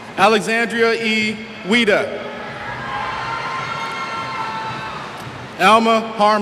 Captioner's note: cheers